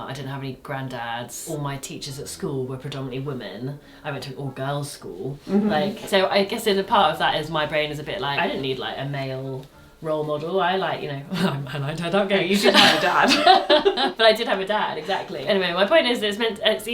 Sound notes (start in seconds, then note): 12.5 laughs